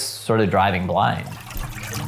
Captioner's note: water gurgling